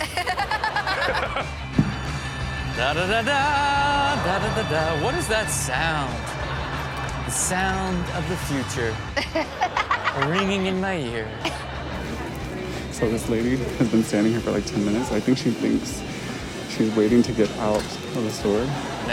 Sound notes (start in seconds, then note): 0.0 everyone laughs; 1.9 rails screeching; 9.1 Chanel laughs; 18.4 audience laughs